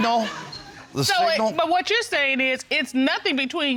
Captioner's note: audience laughs